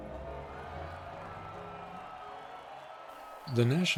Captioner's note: crew cheering